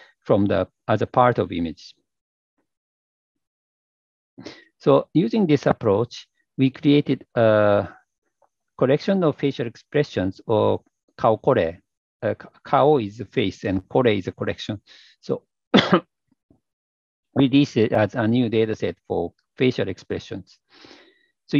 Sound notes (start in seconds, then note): 15.7 coughs